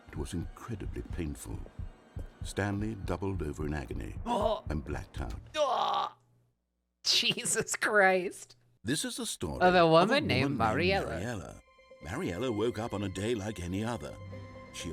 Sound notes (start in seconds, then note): 0.0 heartbeat; 5.1 imitates death sounds; 7.0 laughing